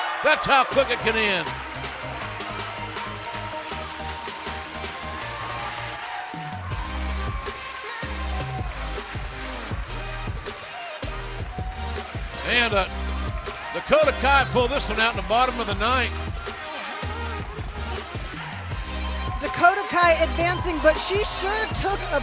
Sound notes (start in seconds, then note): 0.0 bell ringing; 6.1 cheers and applause